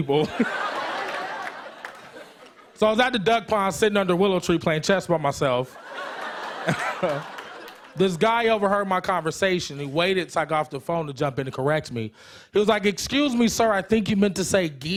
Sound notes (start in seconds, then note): 0.1 laughter; 5.7 laughter